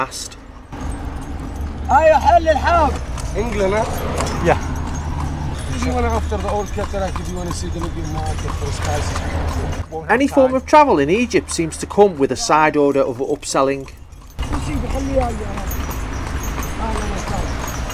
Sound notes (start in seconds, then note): 0.0 voiceover; 9.9 voiceover